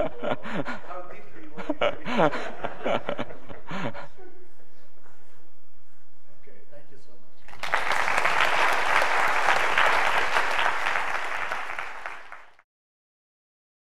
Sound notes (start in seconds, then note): 9.4 applause